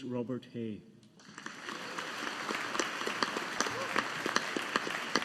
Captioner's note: audience applauding